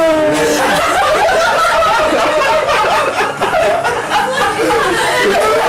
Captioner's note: crowd laughing continues